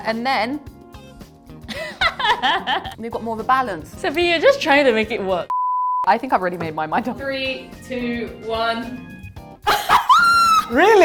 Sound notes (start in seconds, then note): 1.7 laughs; 5.5 beep; 9.6 laughs and squeals